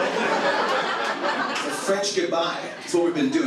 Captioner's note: audience laughs